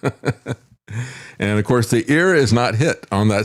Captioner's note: laughs